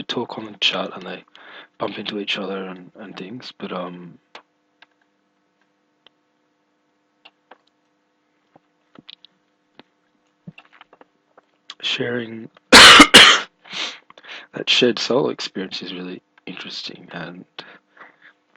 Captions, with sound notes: And they talk in the chat and they bump into each other and things, but um Sharing [coughing] [sniffing] That shared solo experience is really interesting, and